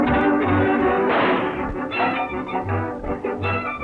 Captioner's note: lively music; gun fires